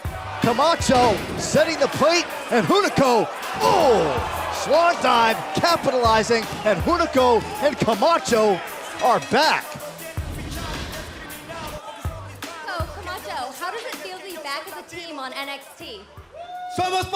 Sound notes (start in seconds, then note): 10.6 crowd chatter